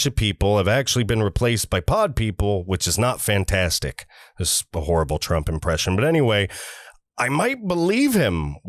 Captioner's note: trump impression